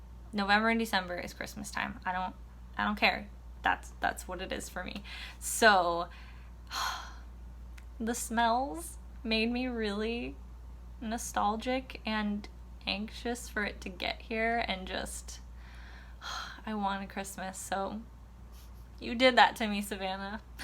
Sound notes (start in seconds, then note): 6.7 heavy sigh; 15.9 sigh